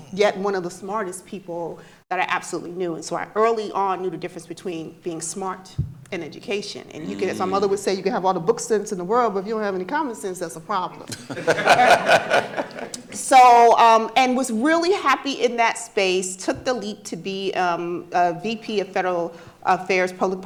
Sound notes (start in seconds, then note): 11.1 audience laughing